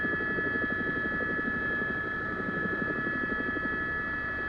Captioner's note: helicopter